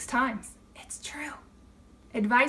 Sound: whispering

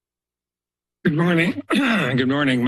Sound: clears throat

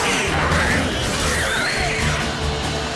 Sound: drowner squeals

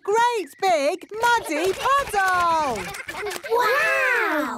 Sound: splashing

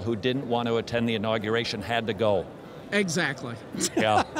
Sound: laughs

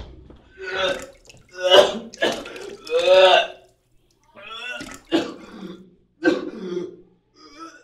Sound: vomiting

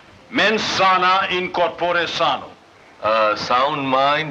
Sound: Latin

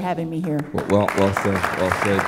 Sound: applause

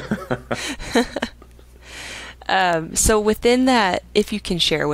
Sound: both laughing

